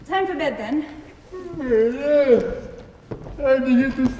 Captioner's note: yawns